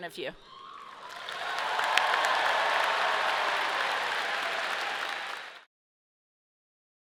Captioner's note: audience cheering and clapping